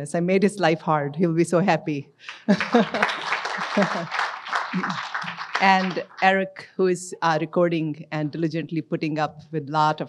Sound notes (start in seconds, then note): 2.3 audience applauds; 2.5 laughs